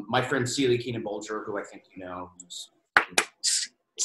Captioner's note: claps hands